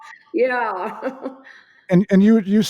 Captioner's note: laughter